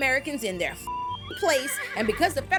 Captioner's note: beep